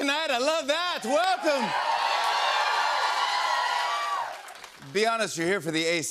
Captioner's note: cheers and applause